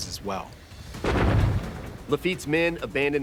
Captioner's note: cannons exploding